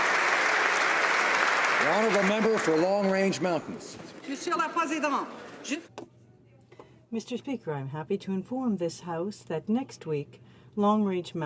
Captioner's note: applause